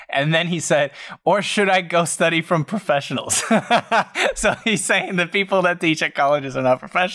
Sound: laughter

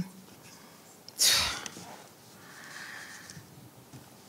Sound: scoffing

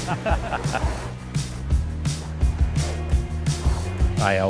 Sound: laughter and upbeat music

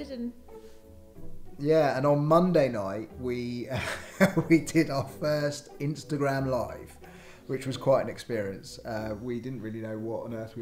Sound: laughs

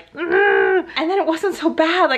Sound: grunting noise

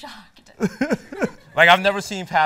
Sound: laughs

